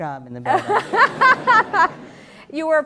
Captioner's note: laughter